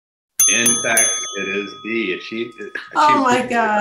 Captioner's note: ding sounds